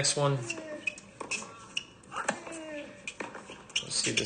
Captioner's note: players grunting